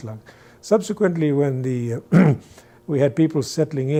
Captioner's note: clears throat